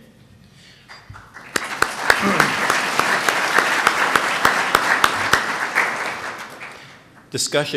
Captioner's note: applause